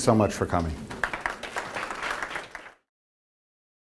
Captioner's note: applause